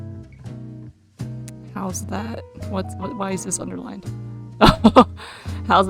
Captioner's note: laughs